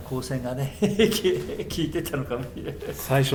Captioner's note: laughs